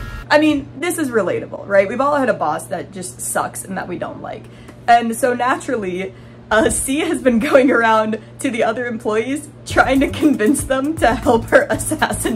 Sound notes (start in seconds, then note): 6.0 laughing